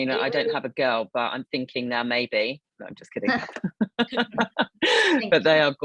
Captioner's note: laughing